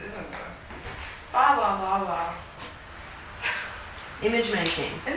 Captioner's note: laughs